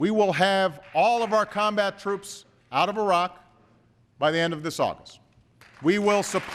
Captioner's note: applause